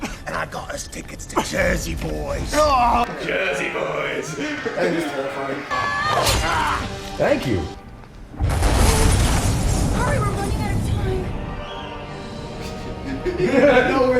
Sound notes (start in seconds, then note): 4.1 menacing tone; 10.0 crash